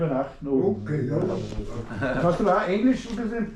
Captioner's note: speaking German